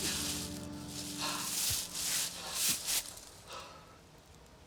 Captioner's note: Arawn panting